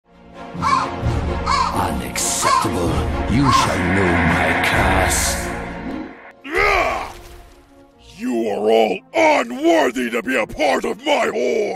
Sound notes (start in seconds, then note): 0.6 ravens caw; 6.7 angry Orc noises